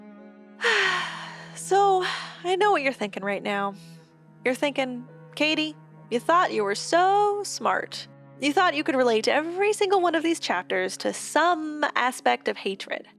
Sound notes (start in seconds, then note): 0.6 massive Sigh